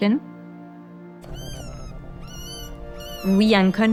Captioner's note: animal whimpering